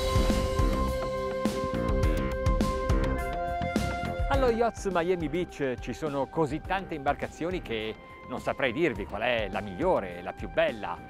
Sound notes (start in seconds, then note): 0.1 upbeat synth music; 4.4 speaking in foreign language